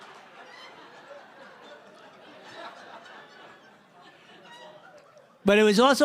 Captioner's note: laughter